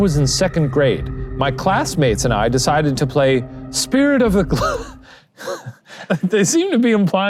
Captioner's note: laughs